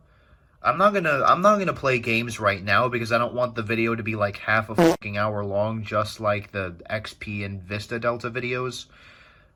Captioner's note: fart